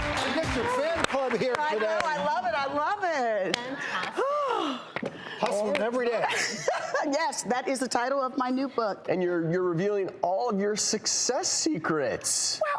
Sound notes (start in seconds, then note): 0.0 laughing; 4.1 sighs; 6.4 laughing